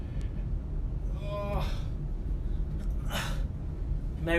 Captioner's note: groans